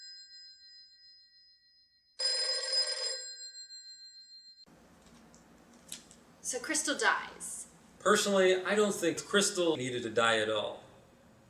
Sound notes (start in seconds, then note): 2.2 ringing